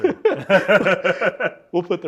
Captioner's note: both laugh